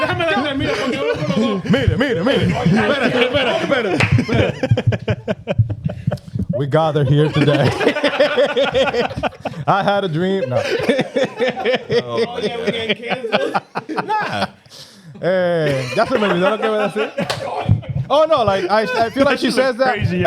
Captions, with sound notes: We got her here today. I had a dream. (Laughing) All the other gang cases. Nah. That's a movie, that's what I'm saying? Oh no, I feel like she says that.